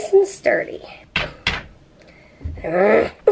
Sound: hammering

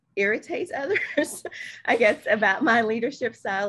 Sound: laughs

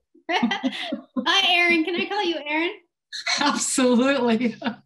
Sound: laughs; laughs

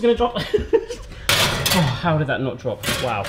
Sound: laughs

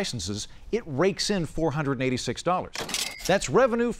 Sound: cash register dings

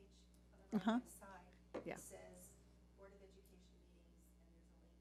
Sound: speaking quietly

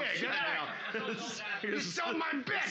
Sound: audience shouting

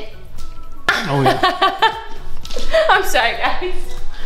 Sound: laughs

